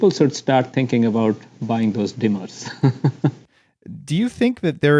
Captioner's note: laughs